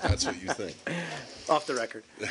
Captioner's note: laughter